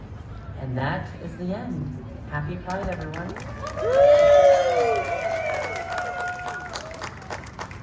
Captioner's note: applause